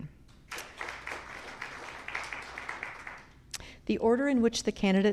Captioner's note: audience clapping